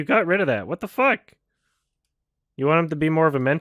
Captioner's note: none